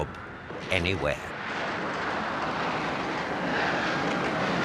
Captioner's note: plane roaring